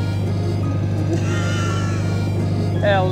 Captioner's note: laughs in Bourgeoisie